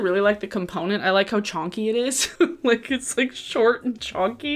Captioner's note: laughs